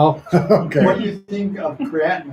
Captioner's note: laughs